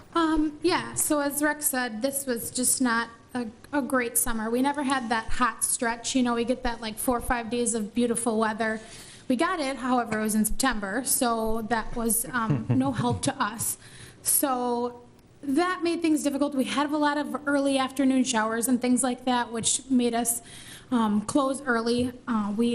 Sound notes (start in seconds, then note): 12.5 laughs